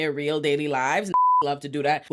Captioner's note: beep